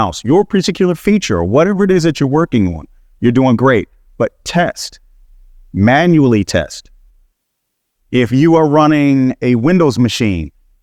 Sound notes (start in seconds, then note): none